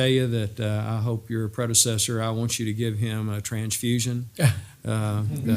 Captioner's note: laugh